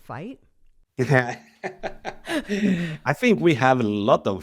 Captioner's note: laughs